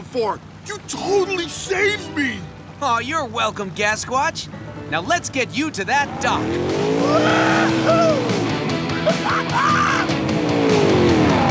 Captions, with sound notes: You totally saved me! Oh you're welcome Gasquatch. Now let's get you to that dock! Woo hoo! [laughing]